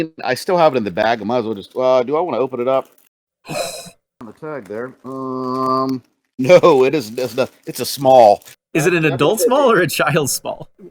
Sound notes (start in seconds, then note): 3.0 gasps